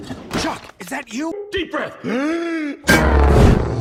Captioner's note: gasps